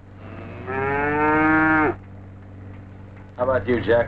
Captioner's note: Pete mooing